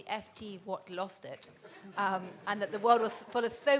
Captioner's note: people laughing